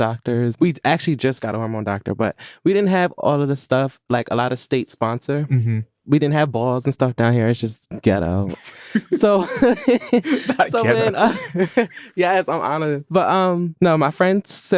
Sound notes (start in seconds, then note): 8.5 laughs